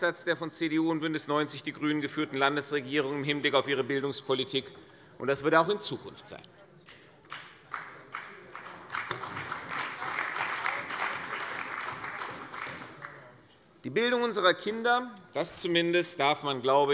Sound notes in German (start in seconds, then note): 7.2 Beifall bei der CDU und dem BÜNDNIS 90/DIE GRÜNEN